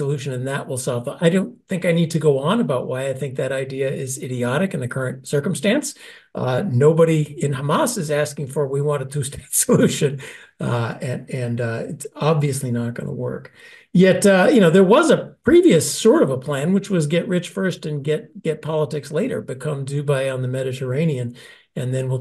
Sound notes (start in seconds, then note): 9.8 laugh